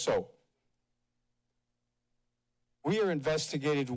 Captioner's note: pause